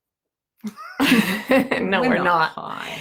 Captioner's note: laughing